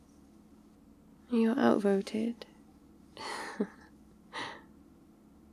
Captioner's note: laughs